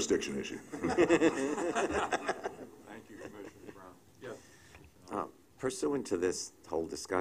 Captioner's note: laughter